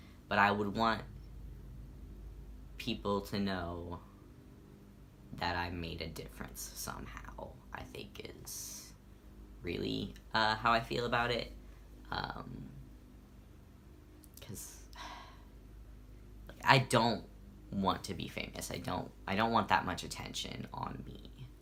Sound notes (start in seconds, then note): 14.9 sigh